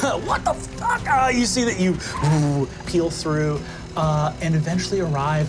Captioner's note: buzzes